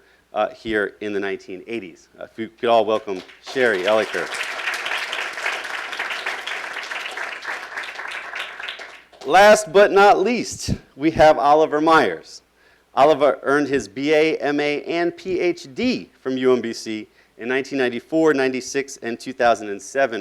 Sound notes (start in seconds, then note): 4.6 applauding